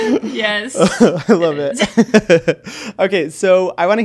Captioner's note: laughs